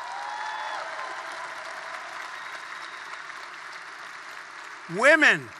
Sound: applause

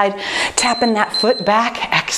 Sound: timer beeping

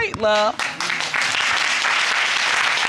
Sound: audience applauding

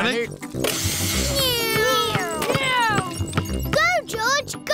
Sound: whirring

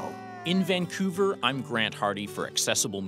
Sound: voiceover

